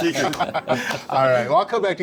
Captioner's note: all laughing